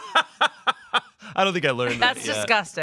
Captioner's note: laughs